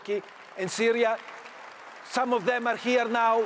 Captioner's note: audience applauds